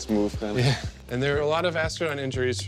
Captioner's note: man chuckling